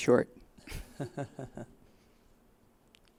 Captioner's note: brief laughter